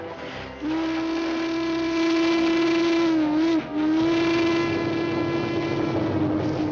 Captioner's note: train horn blares; train rumbling